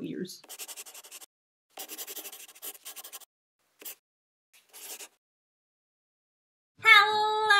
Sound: the sound of a pen scratching

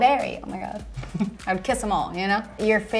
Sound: Daryl laughs

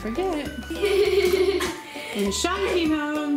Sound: laughing

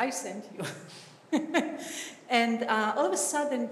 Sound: chuckles

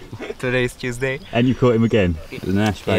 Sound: laughs lightly

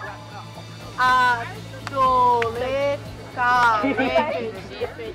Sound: non-english speech

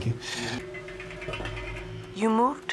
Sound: metal clanging

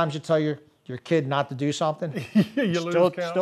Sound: laughs

